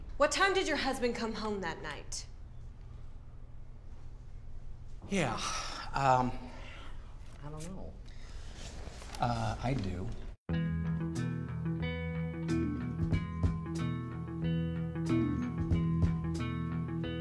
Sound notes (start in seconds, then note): 5.2 sighing; 10.5 soft music